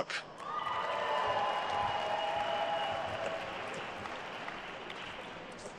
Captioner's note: attendees cheering and applauding